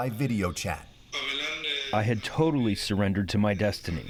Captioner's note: through translator